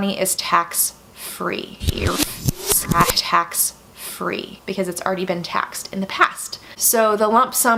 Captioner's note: reverse sound